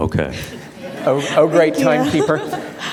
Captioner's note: audience laughter